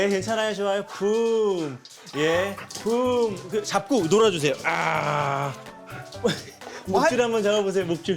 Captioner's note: puff